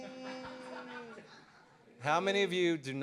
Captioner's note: audience laughter